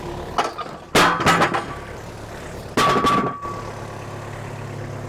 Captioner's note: logs clattering